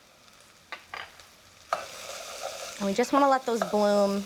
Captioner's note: sizzling